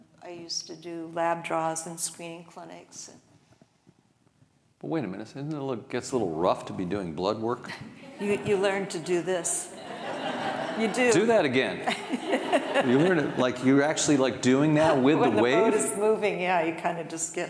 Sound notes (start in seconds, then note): 9.7 audience laughing